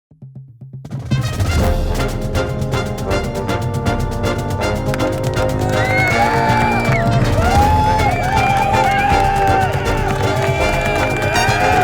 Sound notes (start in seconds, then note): 0.0 crowds Cheering; 0.9 marching Band Music